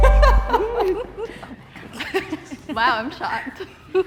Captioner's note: chiming; contestants giggling